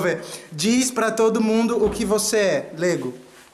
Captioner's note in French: en portugais